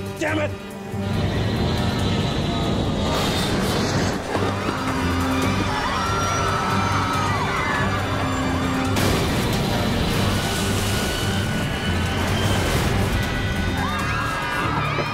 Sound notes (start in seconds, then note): 3.0 crash; 6.0 people screaming